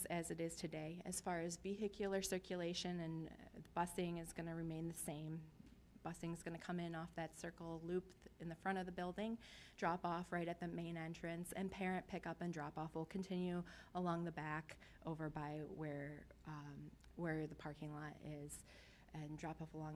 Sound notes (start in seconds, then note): none